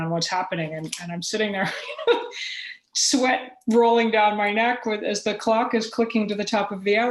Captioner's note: laughter